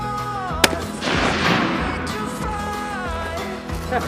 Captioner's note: gun shot